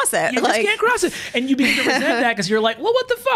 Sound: laughs

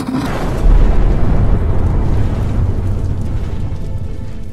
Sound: massive explosion

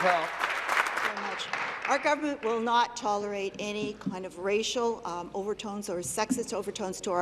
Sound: applause

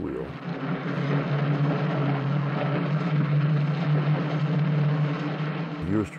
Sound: sound from the film of wheels turning on a hard floor

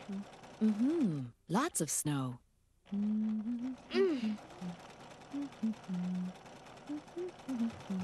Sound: humming

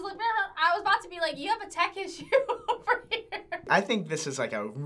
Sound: speaks gibberish; laughs

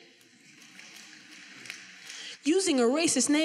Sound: finger snapping

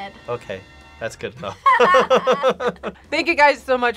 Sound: both laugh

